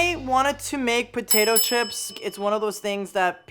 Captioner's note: bell dinging